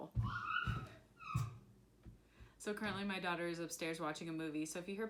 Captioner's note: excited toddler yelling